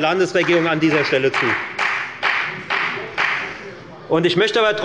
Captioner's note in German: Beifall bei der FDP